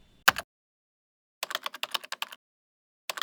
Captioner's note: typing